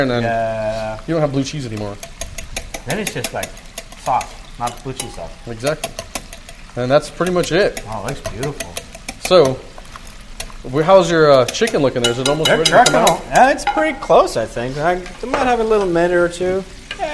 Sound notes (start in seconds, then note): 1.6 whisk clicking; 7.2 metal clicking